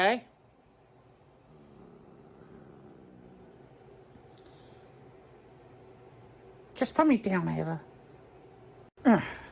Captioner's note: Caprice growls at Rachael and Karly